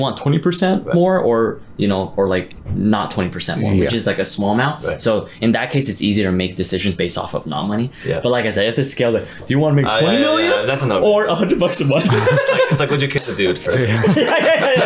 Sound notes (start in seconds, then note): 11.6 boys laughing; 14.6 all laughing